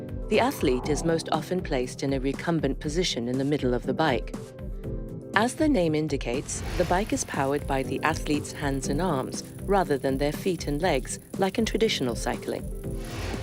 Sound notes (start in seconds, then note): none